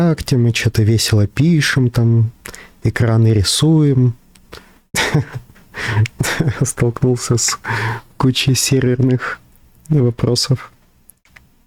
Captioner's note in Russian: смех